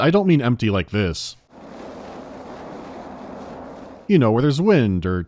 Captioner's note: quiet howling of the wind and crunching of snow